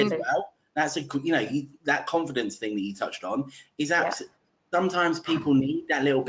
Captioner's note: line distorts 0:42:13.7